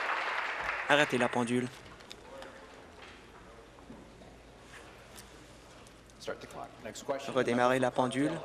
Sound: applause

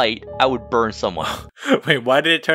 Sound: laughs

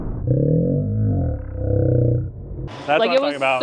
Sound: growling

